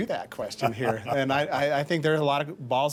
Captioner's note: laughing